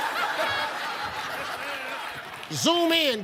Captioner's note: audience laughs